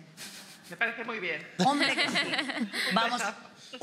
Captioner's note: they laugh